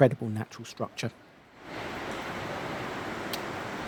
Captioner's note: sound of rushing water